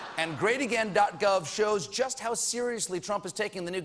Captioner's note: laughter